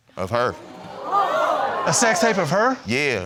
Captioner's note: audience gasping